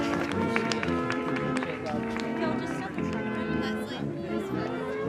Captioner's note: applause